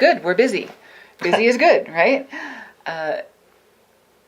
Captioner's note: laughing